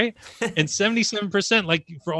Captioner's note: laughs